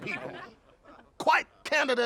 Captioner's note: laughing